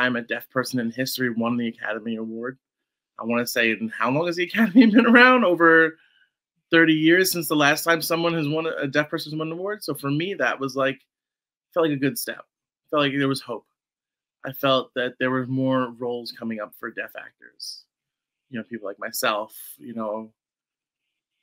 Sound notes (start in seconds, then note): 4.6 laughs